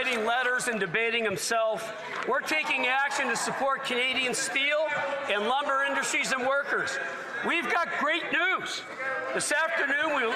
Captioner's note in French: voix de l'interprète